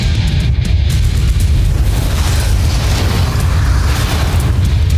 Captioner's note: rock music playing; evil energy whooshing; music fades